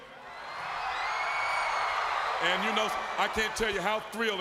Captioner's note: crowd cheering